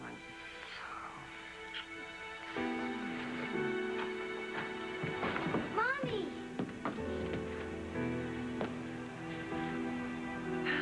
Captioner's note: door opens